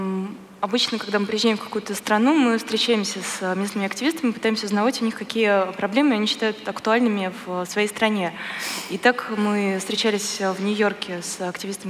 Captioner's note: foreign Language